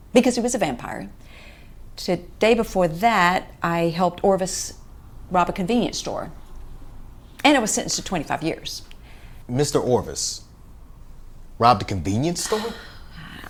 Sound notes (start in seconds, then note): none